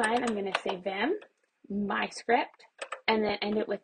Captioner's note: keyboard typing